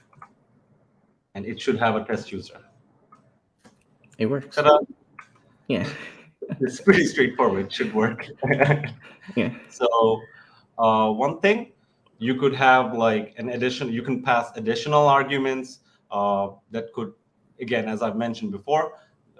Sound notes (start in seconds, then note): 9.3 chuckles